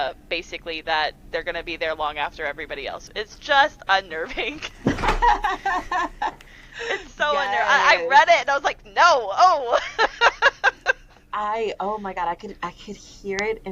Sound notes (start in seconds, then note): 4.8 laughter; 9.7 laughter